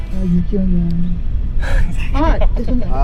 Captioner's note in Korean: 웃참 실패